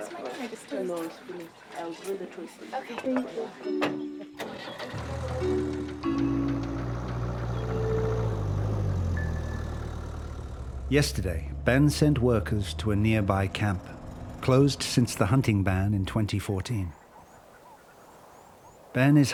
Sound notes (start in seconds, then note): 0.0 indistinct chatter; 4.4 engine starts; 6.7 engine revving